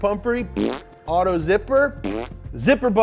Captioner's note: blows raspberry; blows raspberry